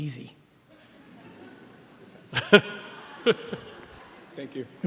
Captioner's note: laughing